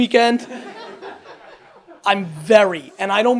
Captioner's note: audience laughs